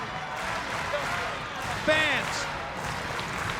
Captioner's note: crowd cheering